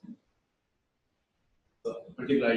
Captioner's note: pause